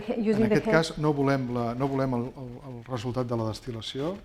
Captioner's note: speaking spanish